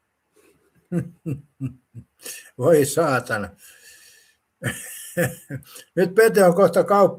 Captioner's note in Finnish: naurua